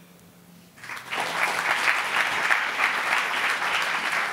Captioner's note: applauding